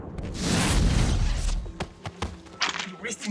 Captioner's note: lightning sounding